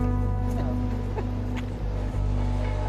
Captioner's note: laughter